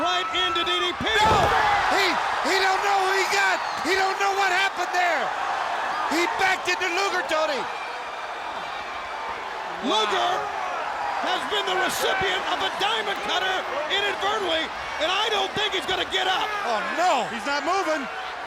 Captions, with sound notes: Right into DDP. (body thudding) No! (crowd clamoring) He don't know who he got. He don't know what happened there. He backed into Luger, Tony. One. Luger has been the recipient of the Diamond Cutter inadvertently. And I don't think he's gonna get up. Oh no, he's not moving.